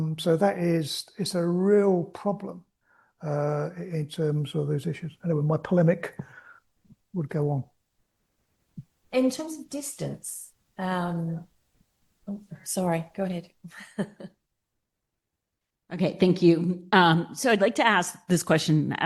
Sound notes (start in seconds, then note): 13.7 chuckles